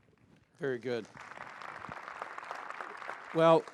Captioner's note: applause